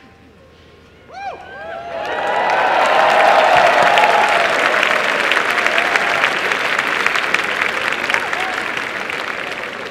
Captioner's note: applause and cheering